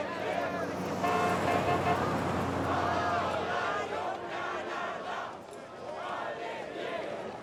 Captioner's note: horn honks; engine hums